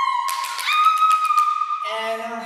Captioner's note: OPHELIA squeals and claps